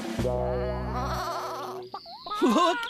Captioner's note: sheep Bleating